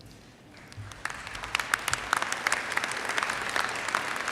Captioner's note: audience applauds